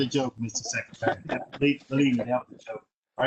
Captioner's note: laughter